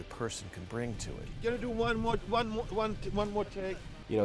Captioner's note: stammering